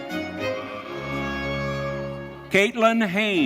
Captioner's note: audience cheering